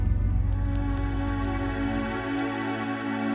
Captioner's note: none